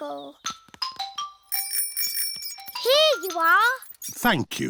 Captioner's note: bell rings